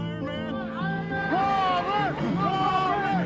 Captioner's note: crowd shouting